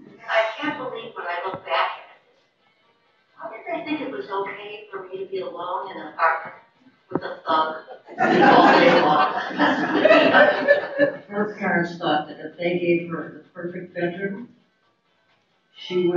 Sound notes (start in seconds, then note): 9.6 laughter